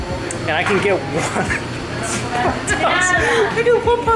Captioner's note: laughs